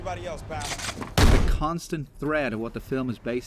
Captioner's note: shotgun blast